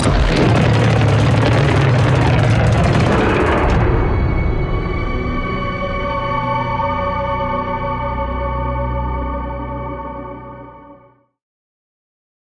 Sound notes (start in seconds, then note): 0.0 creature rumbles